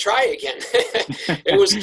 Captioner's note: laugh